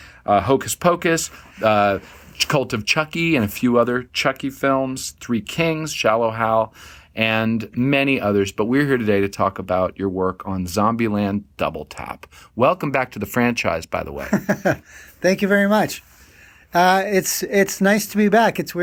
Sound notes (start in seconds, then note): 14.2 chuckling